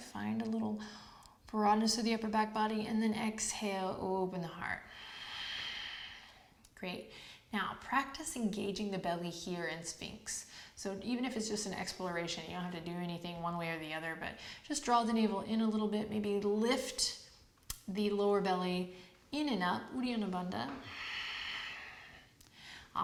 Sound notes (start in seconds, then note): 4.9 exhales; 20.8 exhales